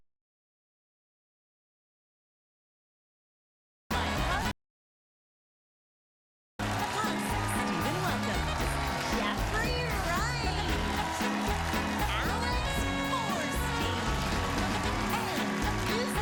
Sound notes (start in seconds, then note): 4.2 cheers and applause